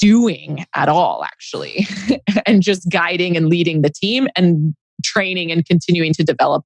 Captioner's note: laughs